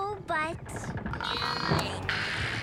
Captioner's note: Milo grunts